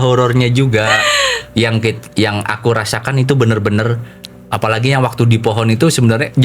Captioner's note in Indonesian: tertawa; terkesiap